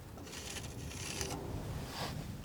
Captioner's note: tapping